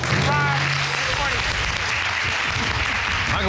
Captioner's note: audience applauding